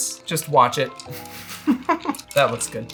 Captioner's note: laughter